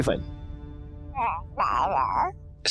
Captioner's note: baby cooing